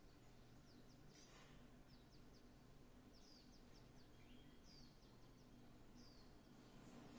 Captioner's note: birds singing; birds singing